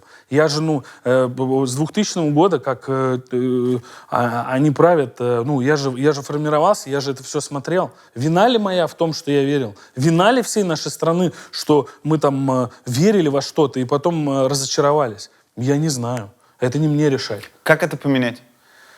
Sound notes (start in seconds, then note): none